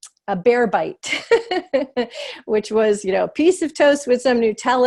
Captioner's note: laughter